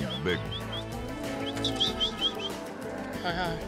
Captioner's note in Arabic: صافرة